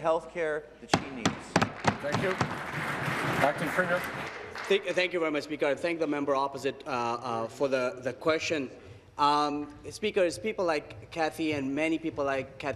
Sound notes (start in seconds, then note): 4.3 applause